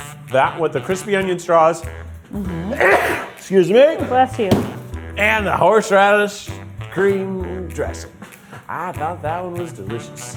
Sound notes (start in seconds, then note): 2.4 sneezing